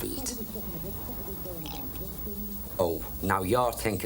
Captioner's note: slurps tea